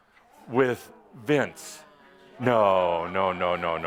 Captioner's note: audience again responds “no”